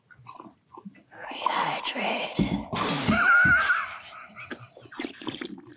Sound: all laughing; water slurping

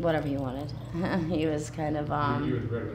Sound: chuckling

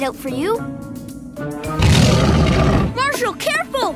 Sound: growling

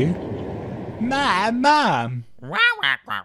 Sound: inquisitive squawk

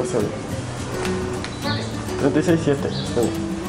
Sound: man speaking Spanish; thermometer beeps; man speaking Spanish

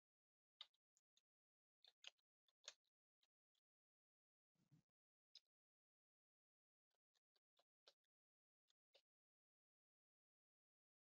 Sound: 20 seconds pause

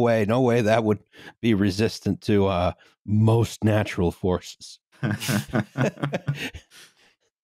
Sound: laughter

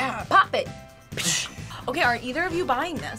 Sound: laughs

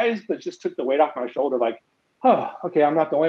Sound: sighs

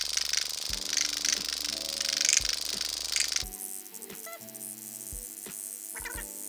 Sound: light upbeat music; microneedle buzzing

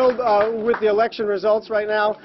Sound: cheering and applause

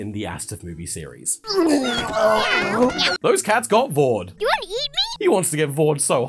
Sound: cats meowing

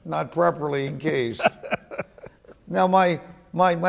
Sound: laughing

